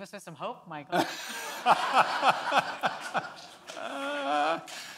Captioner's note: Michael laughs